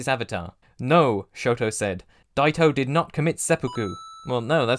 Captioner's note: ding!